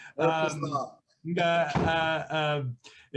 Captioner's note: laughing